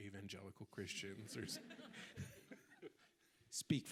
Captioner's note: audience laughing